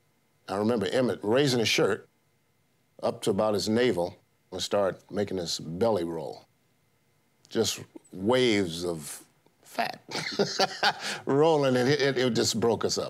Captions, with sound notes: I remember Emmett raising his shirt up to about his navel and start making his belly roll. Just waves of fat... (laughs) rolling, and it... it just broke us up.